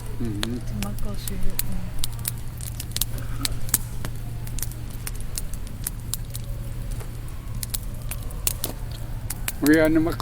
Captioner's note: fire crackling